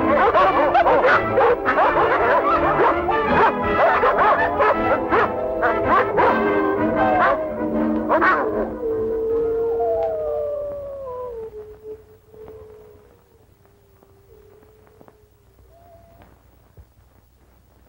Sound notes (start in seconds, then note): 9.9 howling